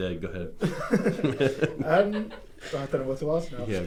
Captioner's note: laughing